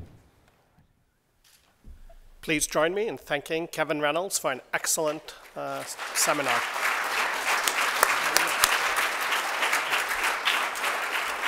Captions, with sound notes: - Please join me in thanking Kevin Reynolds for an excellent seminar. [applause]